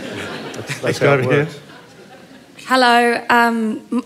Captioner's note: laughter